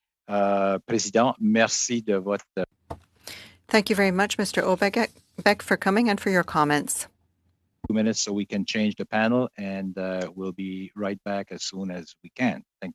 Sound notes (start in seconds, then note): 5.8 speaking French